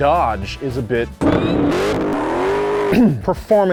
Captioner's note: Hemi-powered everything tearing up some tires